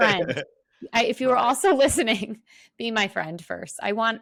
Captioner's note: laughs